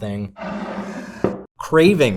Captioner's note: jar scraping